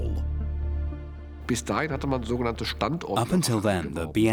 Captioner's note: speaking German